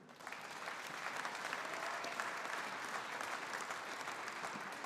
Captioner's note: audience applauding